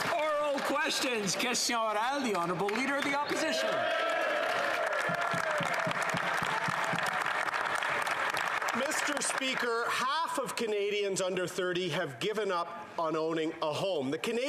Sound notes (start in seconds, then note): 0.0 some Applause